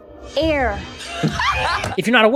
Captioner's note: cast cracking up